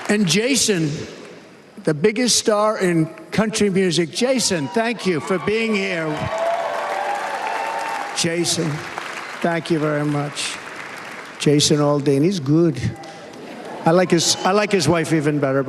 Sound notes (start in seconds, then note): 7.2 cheers and applause